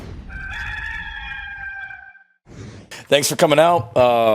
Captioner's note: whooshing; cock crowing